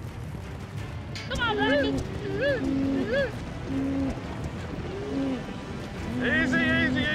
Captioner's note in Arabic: ضربات حوافر; صراخ، ضربات حوافر